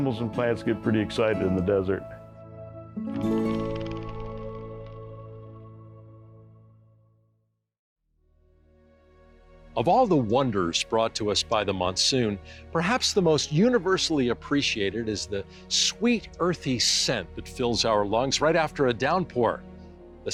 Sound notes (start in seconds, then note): 3.3 wings flutter; 7.9 soft music